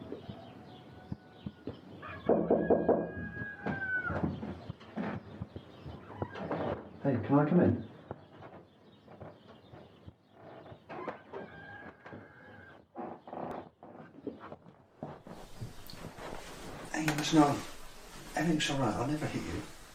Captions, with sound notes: (Knocking) Hey, can I come in? Hey, listen. Everything's alright. I'd never hit you.